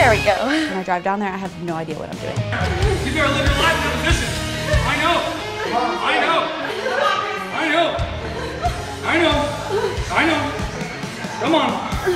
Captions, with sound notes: When I drive down there, I have no idea what I'm doing. [grunting and yelling]